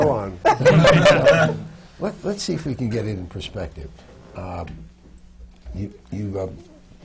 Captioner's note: laughter